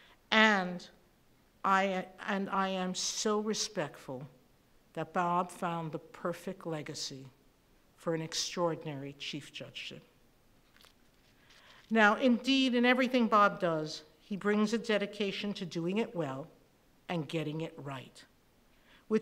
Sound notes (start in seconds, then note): none